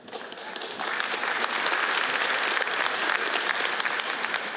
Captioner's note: audience applauds